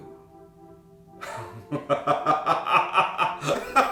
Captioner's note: laughing